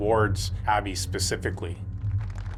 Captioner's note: audience clapping